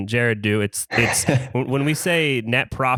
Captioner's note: laughs